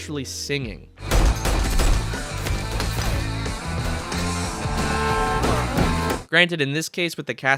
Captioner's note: diegetic gunshots in rhythm of the song